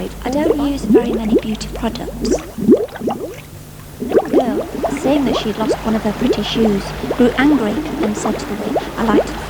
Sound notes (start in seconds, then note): 2.5 bubbling